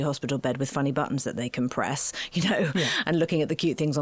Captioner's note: laughing